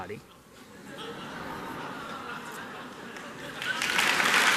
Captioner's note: laughter; applause